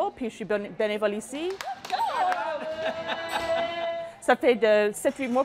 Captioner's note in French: éloge en anglais et rire